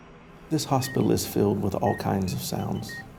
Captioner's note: monitor beeping noise